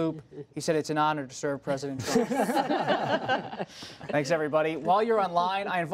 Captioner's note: laughter